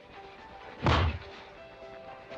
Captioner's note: thud